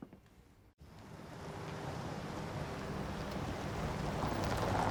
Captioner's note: vehicle approaching